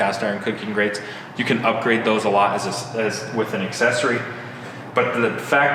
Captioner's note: stutters